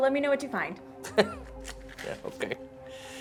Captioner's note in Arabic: يضحك